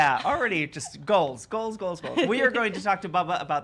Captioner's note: giggles